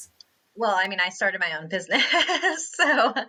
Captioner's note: laughs